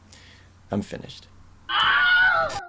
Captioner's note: Wilhelm scream